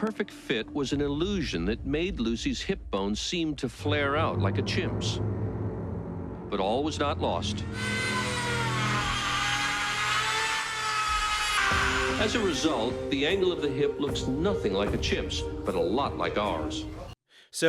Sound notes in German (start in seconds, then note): 10.4 Schleifgeräusch